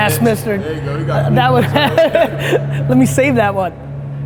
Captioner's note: laughs